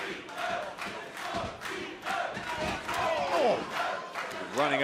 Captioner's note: fans chanting